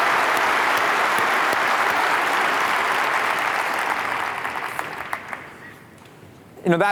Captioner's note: applause